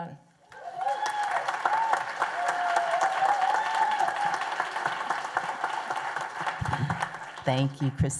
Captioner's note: applause and cheers